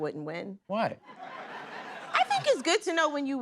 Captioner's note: laughter